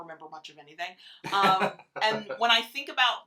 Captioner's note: laughs